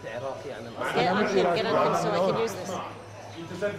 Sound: Arabic

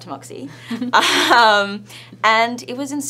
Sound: laughs

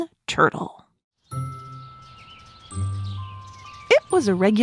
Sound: birds chirp

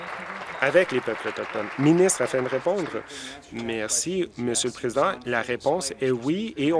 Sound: applause

